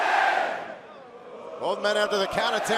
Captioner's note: fans chanting